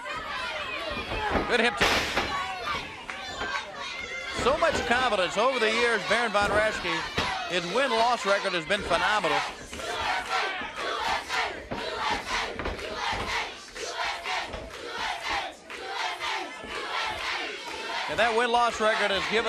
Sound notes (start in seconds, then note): 9.9 crowd cheering